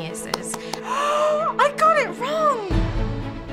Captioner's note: gasping; upbeat orchestral music